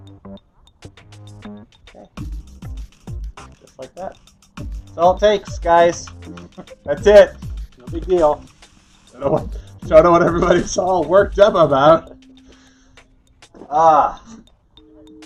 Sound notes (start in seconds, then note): 6.3 laughing